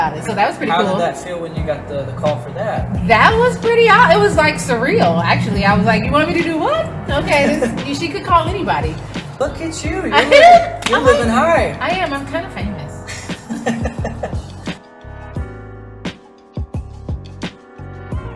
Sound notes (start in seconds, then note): 13.1 laughter